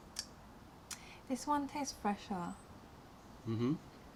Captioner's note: sips tea